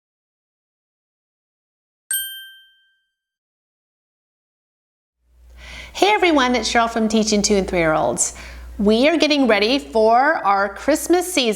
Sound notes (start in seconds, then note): 0.0 ding